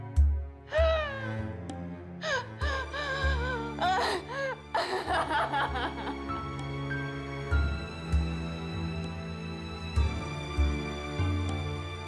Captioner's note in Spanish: sollozos